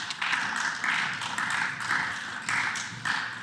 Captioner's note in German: Beifall